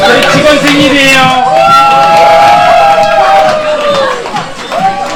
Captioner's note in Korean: 환호